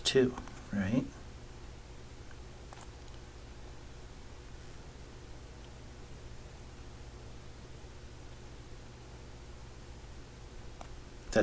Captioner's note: writing Sounds